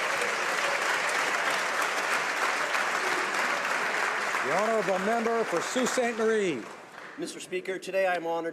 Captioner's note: applause